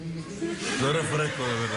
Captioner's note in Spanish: risas